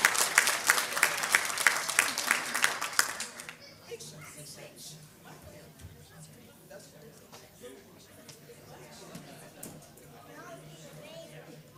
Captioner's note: applause